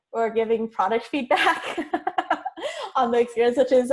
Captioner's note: chuckles